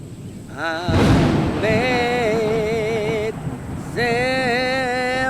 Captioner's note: thunderclap